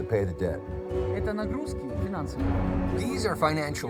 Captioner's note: speaking foreign language